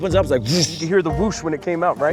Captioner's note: imitates whoosing